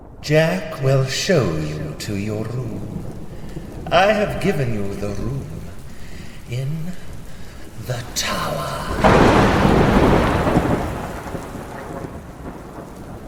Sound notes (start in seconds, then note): 8.9 thunder